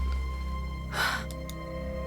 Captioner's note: sighs